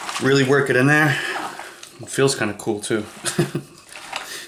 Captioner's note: chuckles